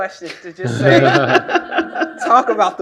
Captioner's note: all laughing